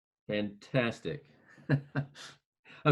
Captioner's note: laughing